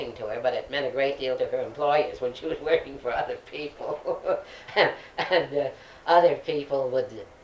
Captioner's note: laughs